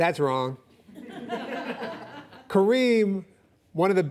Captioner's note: audience laughing